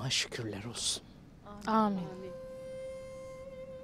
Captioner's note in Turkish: Hep bir ağızdan